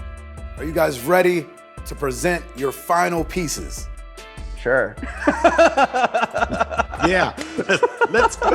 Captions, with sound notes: Are you guys ready to present your final pieces? - Sure. (laughs) - Yeah, let's go.